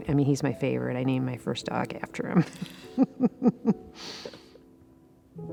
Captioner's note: laughs